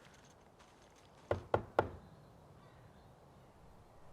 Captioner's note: knocks